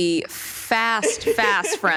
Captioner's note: laughs